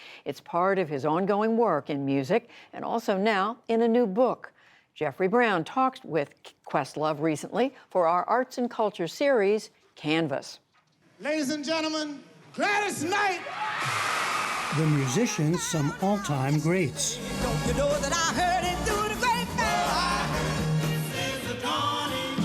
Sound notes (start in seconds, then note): 13.2 cheering and applause